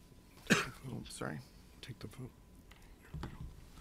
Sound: coughs

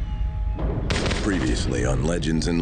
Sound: ominous music; shots crack

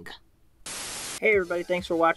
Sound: Static

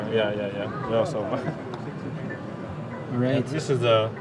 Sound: laughing

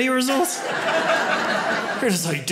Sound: audience laughs

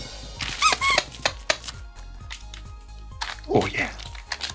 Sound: drumming; squeaking

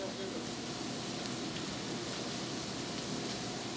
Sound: food sizzling

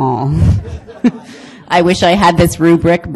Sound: audience laughing

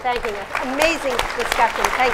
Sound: applause

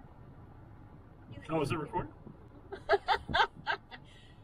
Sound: laughing

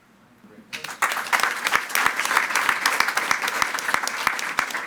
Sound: attendees clapping

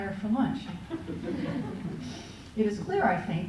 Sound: laughter

